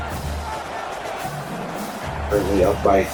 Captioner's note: crowd Noises